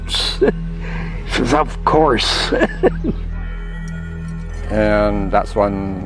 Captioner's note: laughs